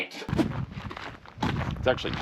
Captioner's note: footsteps crunching